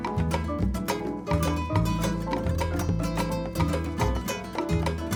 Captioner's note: none